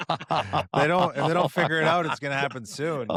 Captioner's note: laughter